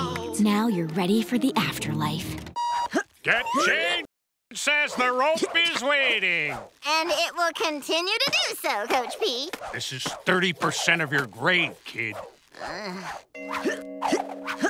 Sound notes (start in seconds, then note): 12.5 groaning; 12.5 grunting